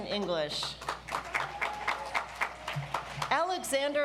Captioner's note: audience applauds